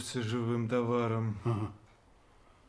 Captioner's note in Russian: усмешка